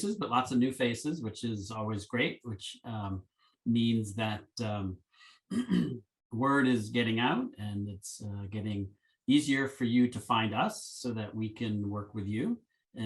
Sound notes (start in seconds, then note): 5.5 clears throat